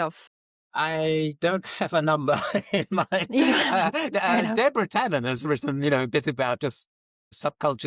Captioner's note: laughs